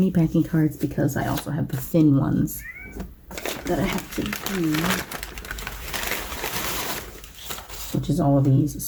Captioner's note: bag crinkles